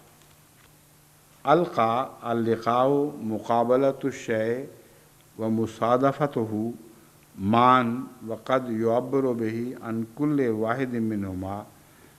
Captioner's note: Arabic